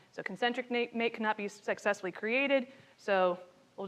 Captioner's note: attendee speaking faintly continues